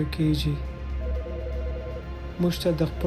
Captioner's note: phone ringing; speaking foreign language